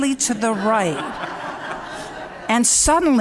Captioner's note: laughter